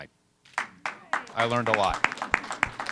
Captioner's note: applause